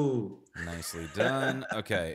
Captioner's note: chuckles